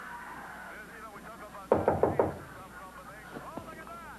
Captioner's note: knock on door